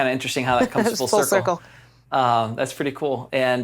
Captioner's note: chuckles